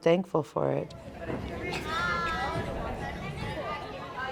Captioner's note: students chatter